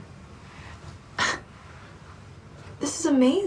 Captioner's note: Myra chuckles